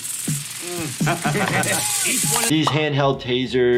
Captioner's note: Johnny laughs